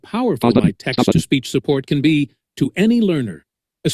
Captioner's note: screen reader narrating extremely rapidly